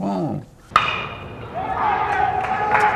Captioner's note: baseball hits bat; indistinct cheering